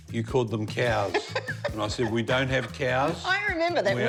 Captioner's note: laughs